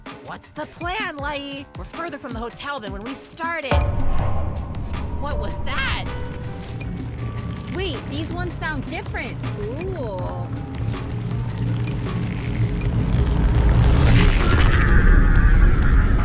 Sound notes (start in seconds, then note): 3.7 thud; 6.2 booming sounds